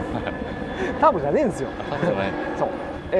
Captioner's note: laughs